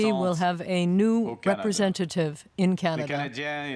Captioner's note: speaking French